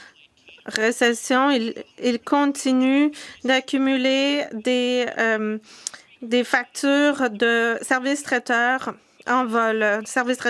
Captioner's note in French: voix de l'interprète